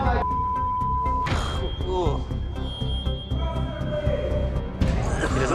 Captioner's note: groan